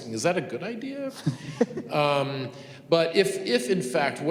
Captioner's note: student laughs